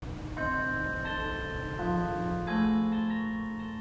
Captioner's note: bells ringing